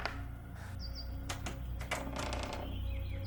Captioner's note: hinges squeaking; latch rattling